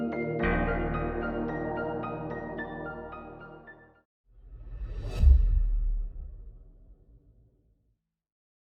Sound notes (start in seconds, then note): 1.6 piano music; 4.4 metallic echo